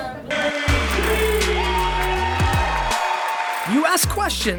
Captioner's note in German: Jubel